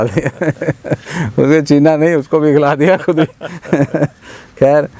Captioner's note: both Laughs; both Laughing